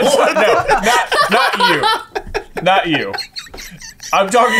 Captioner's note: laughing